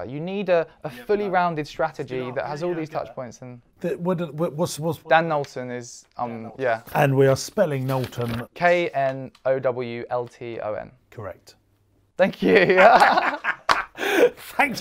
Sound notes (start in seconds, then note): 4.0 stammering; 12.4 both laugh